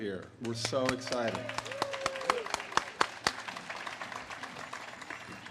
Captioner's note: audience claps and cheers